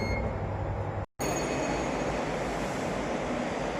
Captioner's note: chime